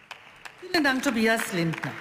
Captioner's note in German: Beifall